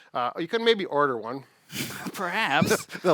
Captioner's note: chuckles